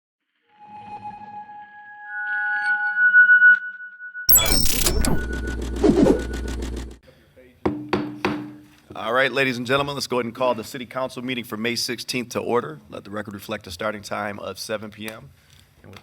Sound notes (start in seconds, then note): 0.2 ethereal, futuristic music; 7.8 gavel banging